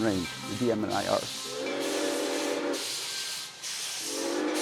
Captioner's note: train whistle